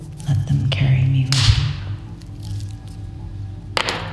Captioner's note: loud cracking